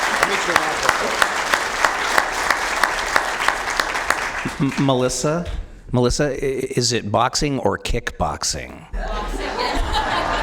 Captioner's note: applause